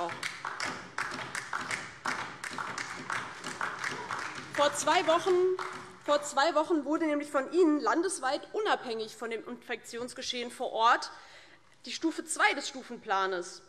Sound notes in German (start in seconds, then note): 2.8 Beifall DIE LINKE